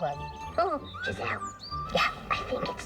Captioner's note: whispering